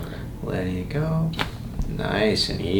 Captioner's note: cracking noise